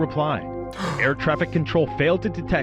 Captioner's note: gasps